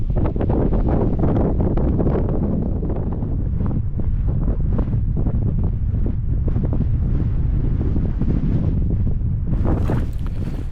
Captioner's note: wind Noise